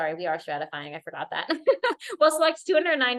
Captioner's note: laughter